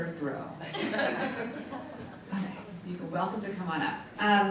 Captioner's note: audience laughs